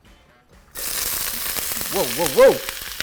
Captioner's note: vegetables sizzling